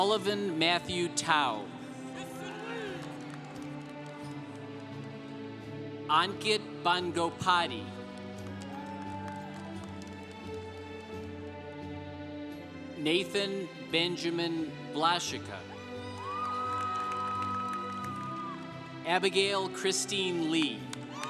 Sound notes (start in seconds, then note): 2.1 congregation applauding; 7.8 congregation applauding; 15.9 congregation applauding